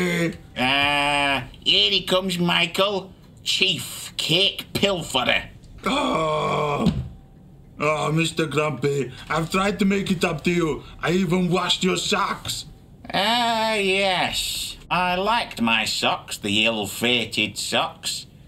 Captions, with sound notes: - Ah, here he comes, Michael, Chief Cake Pilferer. (Igor groaning) (head thudding) - Oh, Mr. Grumpy, I've tried to make it up to you, I even washed your socks. - Ah, yes, I liked my socks, the ill-fated socks,